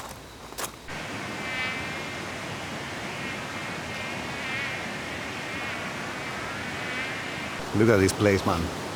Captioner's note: mosquitos buzzing